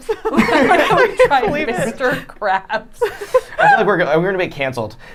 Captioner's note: laughing